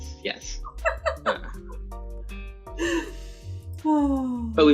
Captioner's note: laughter